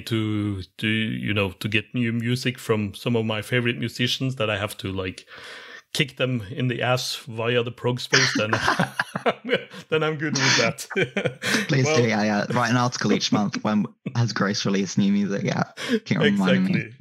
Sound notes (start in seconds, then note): 8.1 laughs